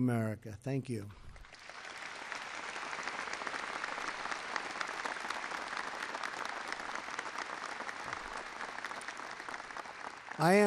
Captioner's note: applause